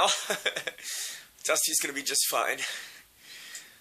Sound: giggling

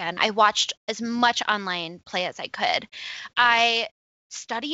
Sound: none

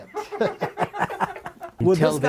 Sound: laughing

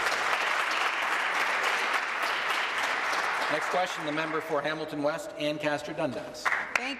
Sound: applause

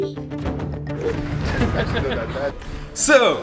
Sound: laughter

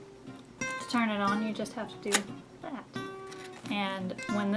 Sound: small snap sound

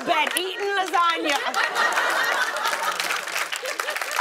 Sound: laughter and applause

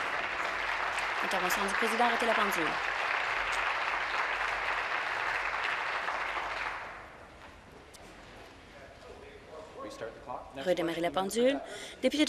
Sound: applause

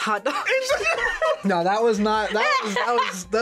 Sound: both laugh

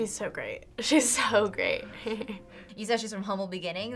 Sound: chuckles

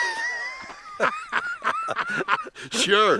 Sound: Brad laughs

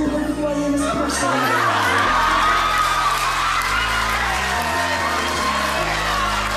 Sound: applause and cheers

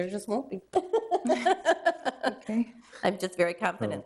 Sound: both chuckling

